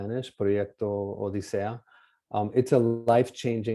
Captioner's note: speaking spanish